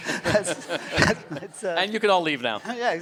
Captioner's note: audience laughs